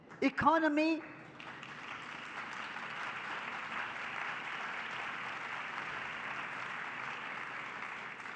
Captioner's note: public applause